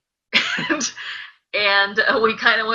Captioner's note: laughing